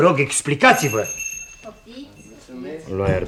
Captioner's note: knocks on the door